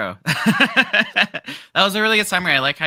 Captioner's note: laughing